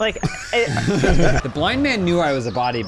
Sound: laughing

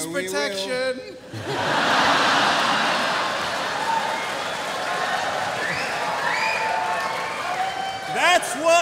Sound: laughter

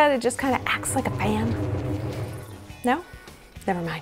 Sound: fan sound

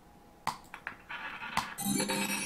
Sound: ball rolling; successful chime

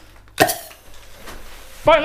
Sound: grenade string pull

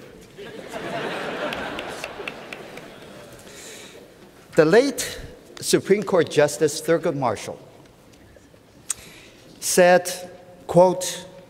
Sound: laughter

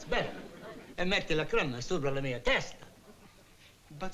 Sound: speaking italian

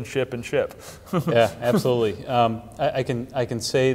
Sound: chuckling

